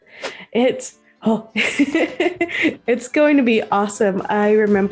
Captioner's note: laughs